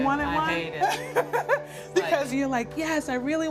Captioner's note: laughs